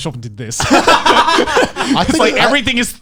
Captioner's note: all laughing